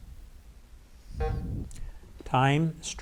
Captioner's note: bell buzzes